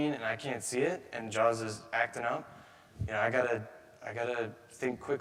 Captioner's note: none